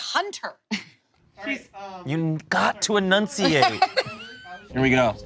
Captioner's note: laughs